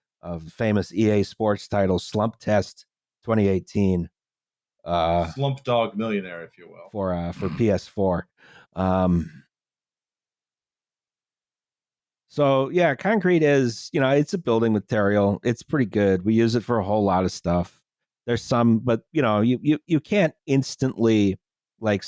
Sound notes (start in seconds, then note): 7.3 snorts